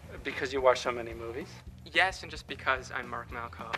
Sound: none

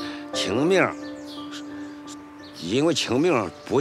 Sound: speaking Chinese

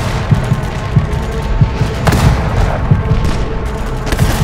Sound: guns firing

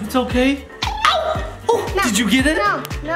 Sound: cartoony injection sound

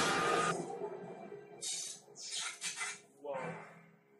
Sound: electric zapping

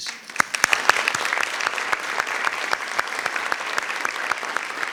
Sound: audience applauding

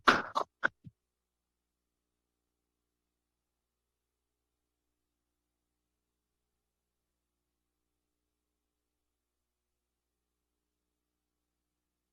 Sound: silence

